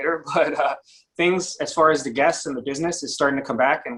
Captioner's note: chuckles